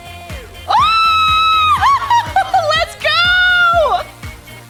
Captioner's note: squeals